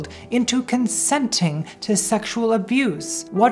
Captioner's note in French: none